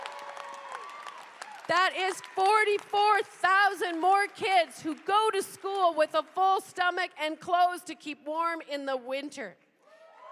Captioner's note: cheers and applause